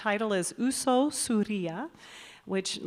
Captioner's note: announcer speaking in Basque